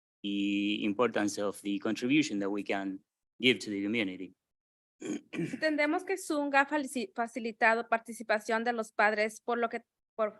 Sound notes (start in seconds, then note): 5.7 speaking in Spanish